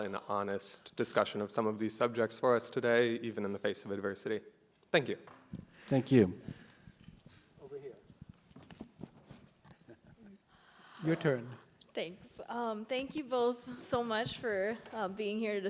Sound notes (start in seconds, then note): 9.7 laughs